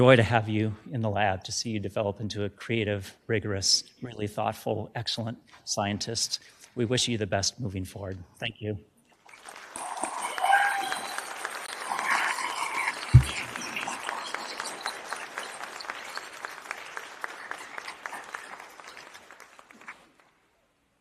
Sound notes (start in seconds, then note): 9.2 applause